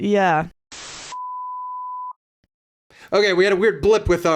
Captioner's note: beep